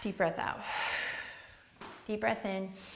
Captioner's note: exhales